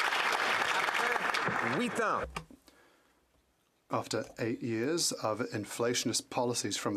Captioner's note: some Applause